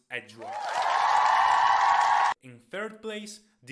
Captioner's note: crowd cheers louder